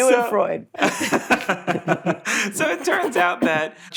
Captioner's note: laughing